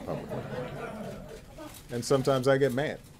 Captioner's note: laughter